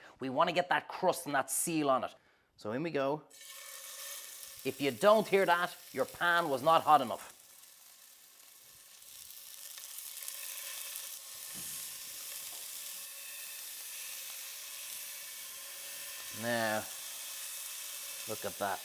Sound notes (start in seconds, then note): 3.6 meat sizzling; 8.2 meat sizzling